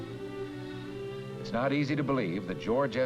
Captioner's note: voiceover